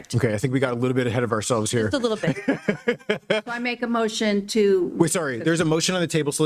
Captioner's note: laughter